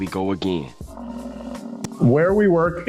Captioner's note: duck quacks; buffalo grumbles